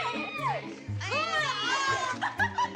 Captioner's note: laughing